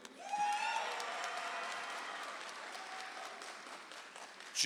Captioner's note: audience applauds